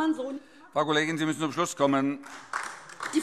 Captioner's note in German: Beifall DIE LINKE